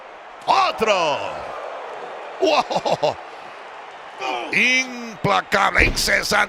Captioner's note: laugh